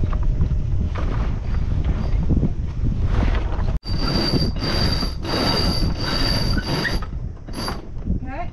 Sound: winch noise

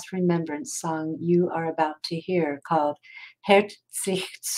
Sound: speaking in foreign language

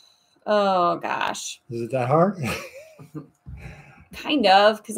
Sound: laughs

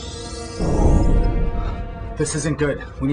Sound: explosion

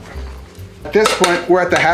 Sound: metal clinking

